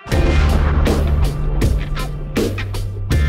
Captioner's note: blasting; upbeat drum music